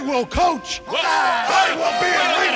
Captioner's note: shouting